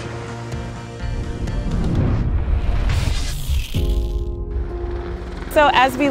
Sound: swoosh sound

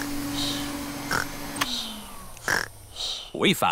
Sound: snores; whirring stops

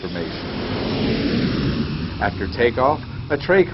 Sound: engines screaming

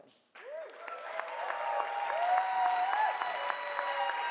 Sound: audience cheering

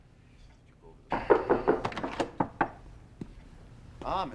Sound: knock At Door

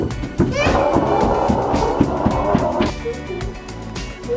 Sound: gorilla growling; playful humming

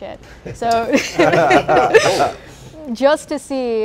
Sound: laughing

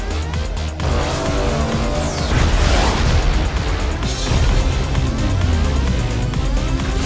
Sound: laser zapping; explosion booming

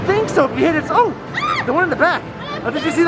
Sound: screams

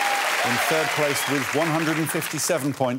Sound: cheers and applause

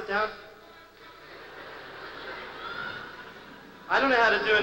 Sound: laughter

